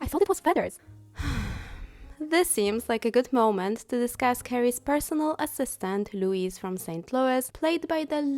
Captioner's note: sigh